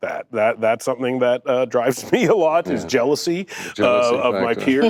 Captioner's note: laughs